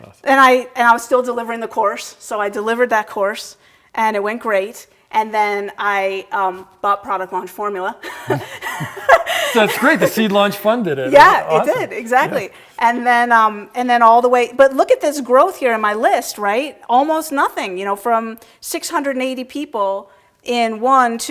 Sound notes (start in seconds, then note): 8.0 laughing